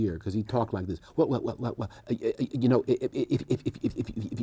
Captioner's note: stammers